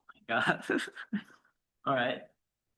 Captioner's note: laughs